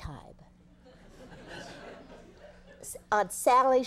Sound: audience laughing

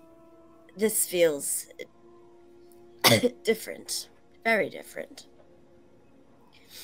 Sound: coughs

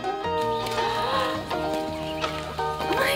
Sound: gasps

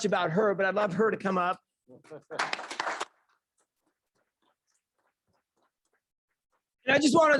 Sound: clapping

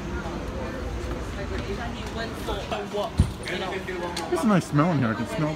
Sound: customer chatter

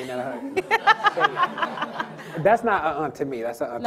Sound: audience and panel laughing

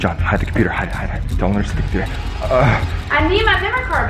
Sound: grunts

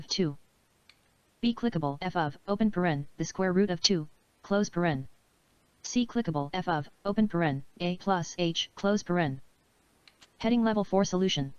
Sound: synthesized speech

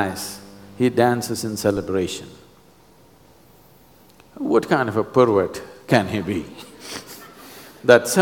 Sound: laughter

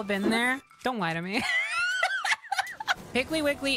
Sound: laughter

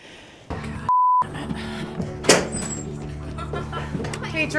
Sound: beep; dramatic music

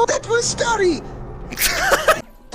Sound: laughter

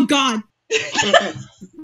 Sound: laughing

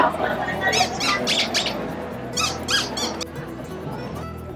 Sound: mime squeaking

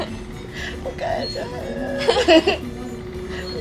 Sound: cry

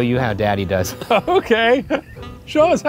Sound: laughing

